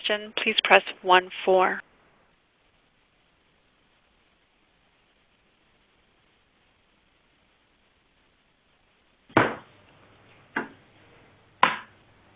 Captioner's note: silence from 0:34:08 to 0:35:08